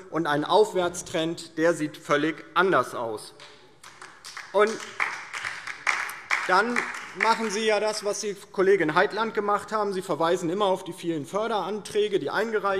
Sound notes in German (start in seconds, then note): 3.8 Beifall DIE LINKE und vereinzelt SPD